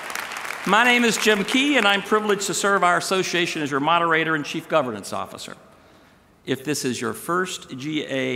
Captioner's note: applause